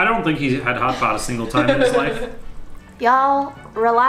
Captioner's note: laughing